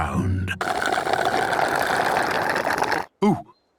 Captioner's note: slurping